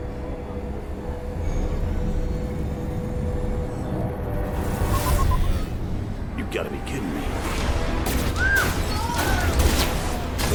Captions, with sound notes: (loud beeping) - You've gotta be kidding me. (women screaming)